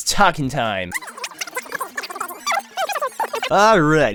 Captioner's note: mindless chatter